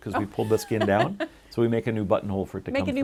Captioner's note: laughing